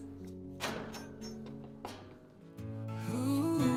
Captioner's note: gate clanging